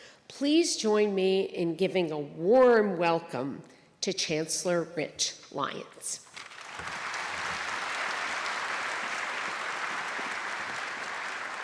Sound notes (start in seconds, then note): 6.3 applause